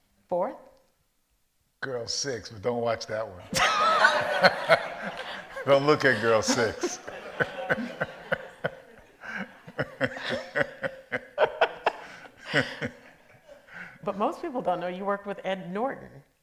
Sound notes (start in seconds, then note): 4.3 all laugh; 7.9 laughs; 11.7 laughs